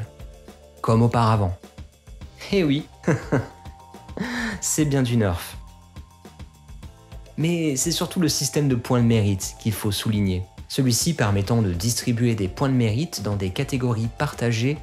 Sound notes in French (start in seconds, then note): 3.0 giggles